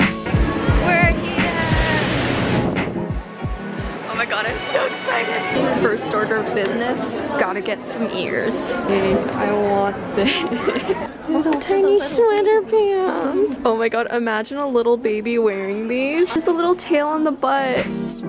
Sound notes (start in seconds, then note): 0.5 engine roaring; 2.8 wind howls